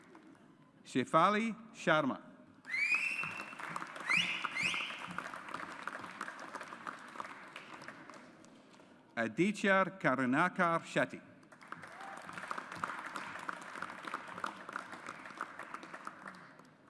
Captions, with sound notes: Shaifali Sharma. (AUDIENCE APPLAUDS) Aditya Karunakar Shetty. (AUDIENCE APPLAUDS)